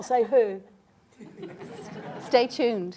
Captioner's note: laughter